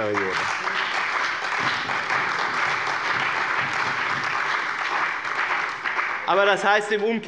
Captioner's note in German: Beifall bei dem BÜNDNIS 90/DIE GRÜNEN und der CDU